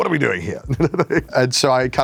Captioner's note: chuckles